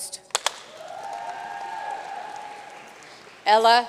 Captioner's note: audience cheering and applauding